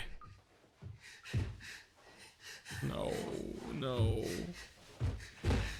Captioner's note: Daisuke panting